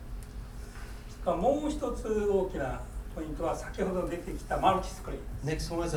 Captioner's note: speaking in foreign language